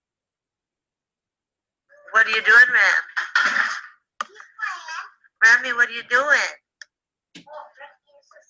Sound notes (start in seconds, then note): 2.6 disembodied Female Voice